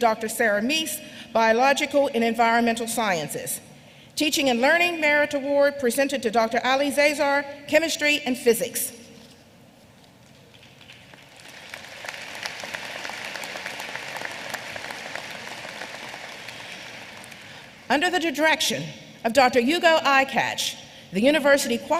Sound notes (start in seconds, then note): 10.4 applause